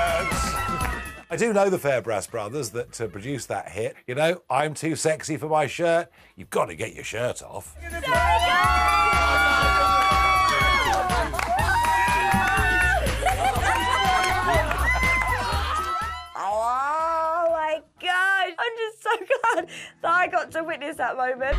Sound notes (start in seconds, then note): 7.8 cheers; 10.4 screams